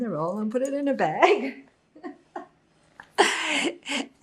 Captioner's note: laughing